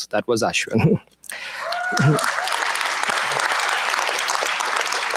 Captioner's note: applause